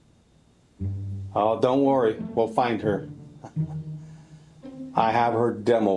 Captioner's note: chuckles